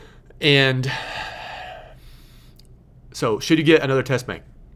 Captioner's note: sighing